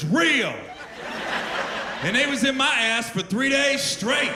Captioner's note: laughter